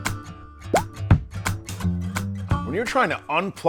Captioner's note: item pops